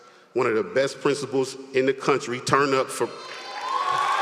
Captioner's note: applause